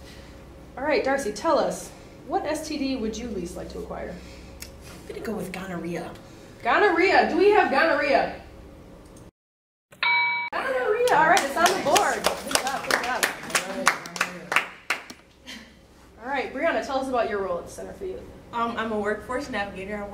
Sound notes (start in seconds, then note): 10.0 correct answer ding; 15.6 applause